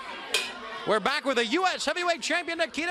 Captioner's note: bell dings